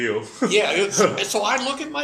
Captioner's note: laugh